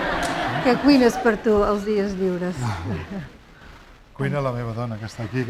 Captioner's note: laughter; speaking spanish; speaking spanish